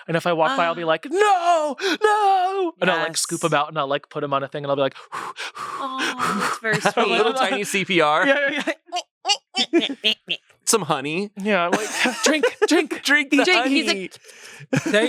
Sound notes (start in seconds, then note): 4.9 exhales; 9.0 makes sound effects